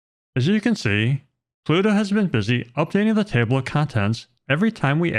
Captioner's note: none